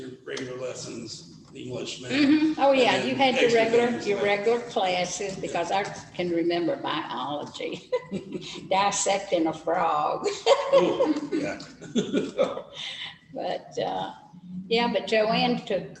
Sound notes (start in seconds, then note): 10.2 laughter